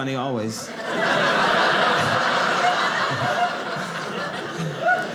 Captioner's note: audience laughing